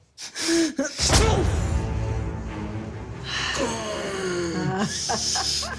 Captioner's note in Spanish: Respiración agitada